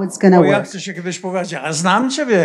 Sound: foreign language

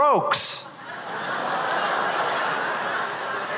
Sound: laughter

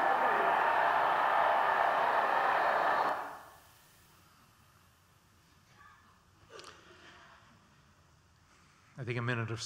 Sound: cheering

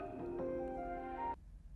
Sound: alarm clock

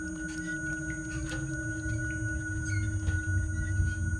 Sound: light squeaking

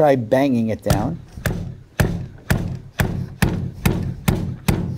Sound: machine slaps

